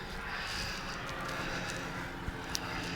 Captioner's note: sighing